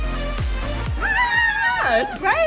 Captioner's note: excited screams